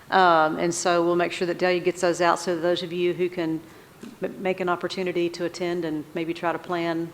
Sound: none

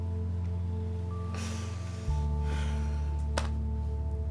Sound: sighs

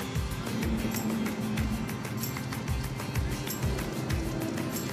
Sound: cars driving

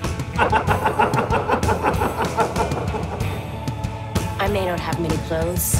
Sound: Mr. Macabre laughs manically

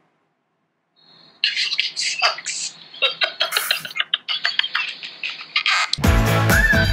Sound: laughs; upbeat music

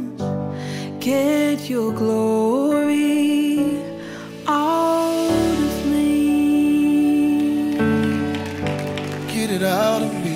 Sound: audience applause

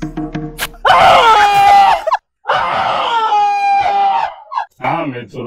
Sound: painful screams!

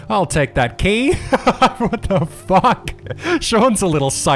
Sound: laughing

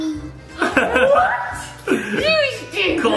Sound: laughs

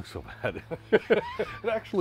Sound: both laughing

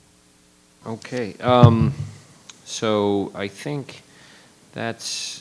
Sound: microphone rattling

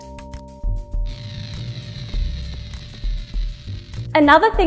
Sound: qubit screeching

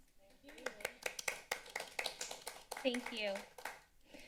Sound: clapping sound

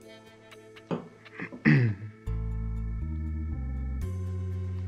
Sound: clears throat

